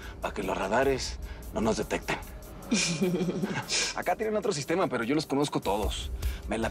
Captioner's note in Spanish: Risas